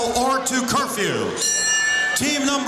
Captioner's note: bell rings